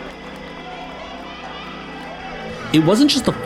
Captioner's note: excited pom noises